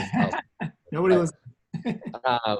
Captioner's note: laughs